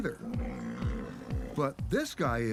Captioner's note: rhino groans